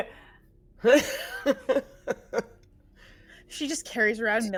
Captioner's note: laughing; chuckles